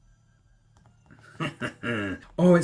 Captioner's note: a chuckle